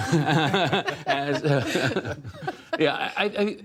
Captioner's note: laughter